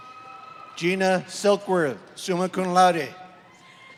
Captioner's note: applause